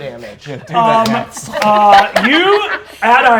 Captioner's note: claps